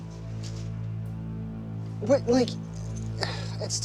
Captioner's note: sighs